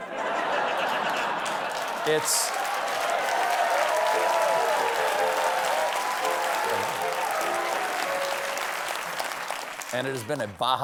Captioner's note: laughter; applause